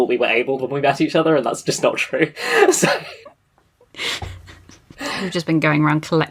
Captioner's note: laughing